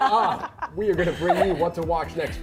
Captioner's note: laughter